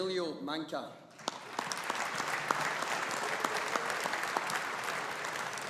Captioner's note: audience applauding